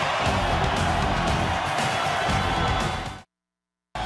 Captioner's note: crowd cheering